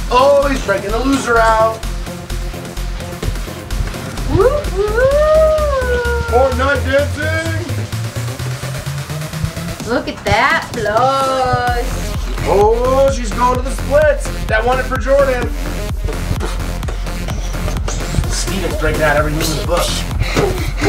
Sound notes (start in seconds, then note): 1.8 dance music; 4.7 cheering; 15.9 dance music; 20.6 dance music